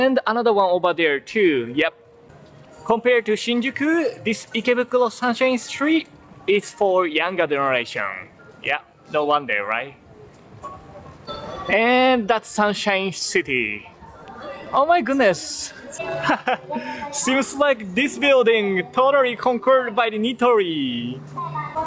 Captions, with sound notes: And another one over there, too. Yep. Compared to Shinjuku, this Ikebukuro Sunshine Street is for younger generation. Yep. No wonder, right? And that's Sunshine City. Oh my goodness! [CHUCKLES] Seems like this building totally conquered by Nitori!